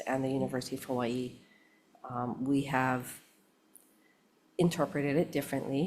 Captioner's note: none